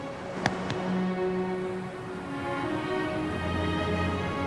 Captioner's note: hands patting